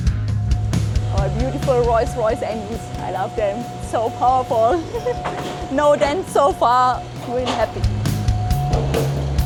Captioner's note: laughter